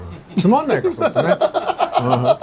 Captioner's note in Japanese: 笑い